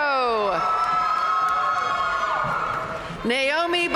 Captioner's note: audience cheering and applauding